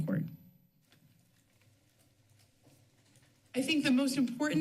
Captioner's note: pause